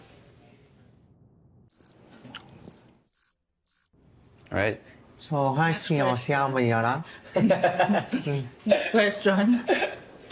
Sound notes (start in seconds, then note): 1.7 crickets chirping; 7.2 laughter